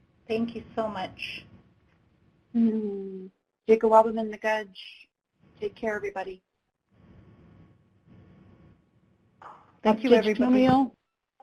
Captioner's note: speaking native language